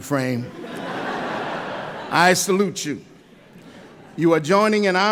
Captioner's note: laughter